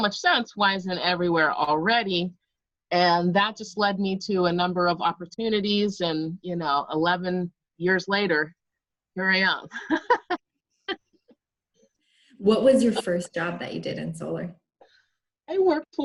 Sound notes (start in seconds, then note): 9.8 laughs